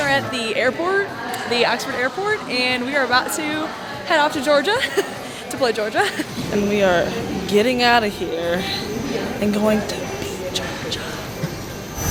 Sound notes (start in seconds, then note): 4.7 chuckles